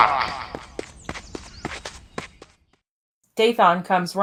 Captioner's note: runner approaches